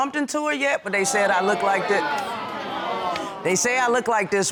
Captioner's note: audience exclaims